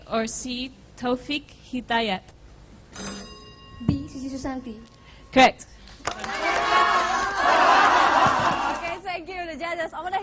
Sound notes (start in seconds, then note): 3.0 bell; 6.0 applause